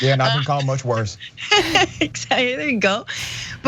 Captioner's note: laugh